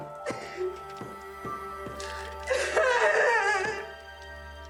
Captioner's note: Jordyn sobbing